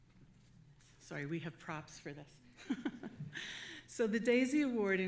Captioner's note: chuckles